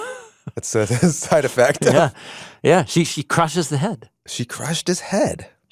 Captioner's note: laughs